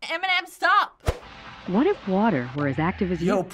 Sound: voice-over

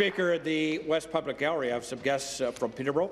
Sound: applause

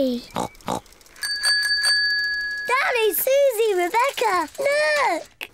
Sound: snorts; bicycle bell rings

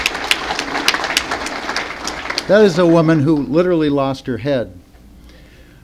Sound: applause

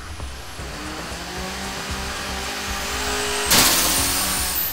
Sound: engine roars; upbeat music

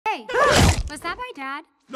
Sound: all gasp

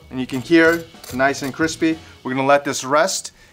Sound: crust crunching

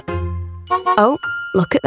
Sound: honking

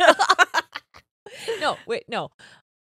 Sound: both laughing

